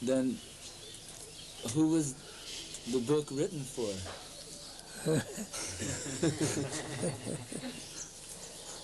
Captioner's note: laughter